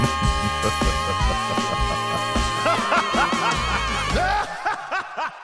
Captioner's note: nefarious chuckling